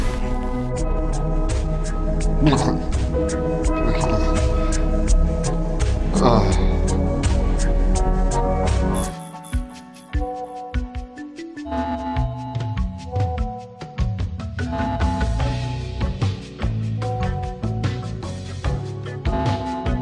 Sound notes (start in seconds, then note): 0.2 sexy music; 6.1 man moaning; 9.7 slow electronic music